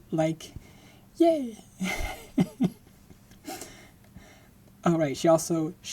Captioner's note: laughing